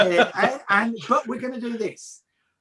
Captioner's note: continues laughing